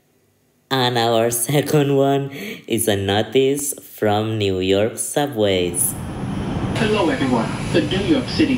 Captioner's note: subway speakers